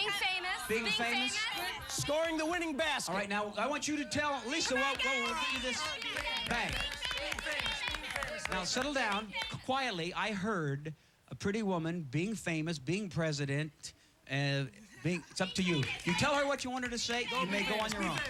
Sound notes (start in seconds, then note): 6.1 yelling answers